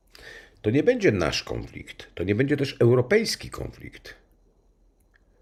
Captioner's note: Polish